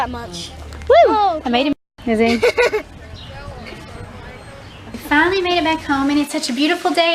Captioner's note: laughing